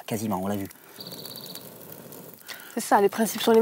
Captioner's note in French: soufflement